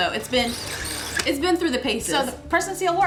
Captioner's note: friction sound